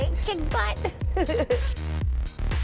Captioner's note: giggles